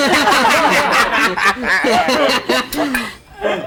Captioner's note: everyone laughs